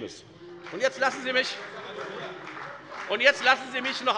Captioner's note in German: Beifall bei der FDP